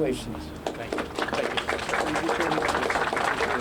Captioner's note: applause